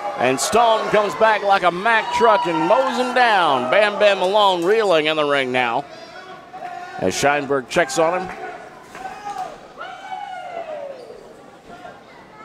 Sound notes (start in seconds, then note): 10.0 crowd